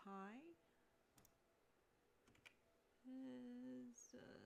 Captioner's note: mouse and keyboard clicking